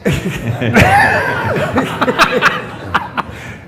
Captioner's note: laughs